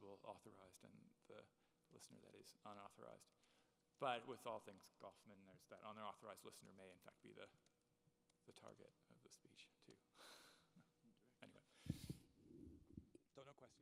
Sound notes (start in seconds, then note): 9.5 speaks off microphone